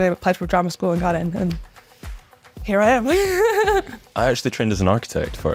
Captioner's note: laughs